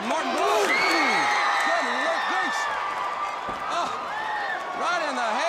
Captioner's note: crowd cheering